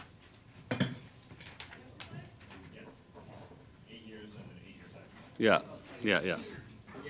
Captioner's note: silence